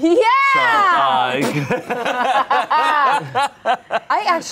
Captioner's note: everyone laughs